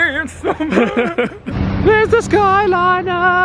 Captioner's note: laughing